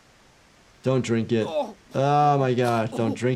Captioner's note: character grunting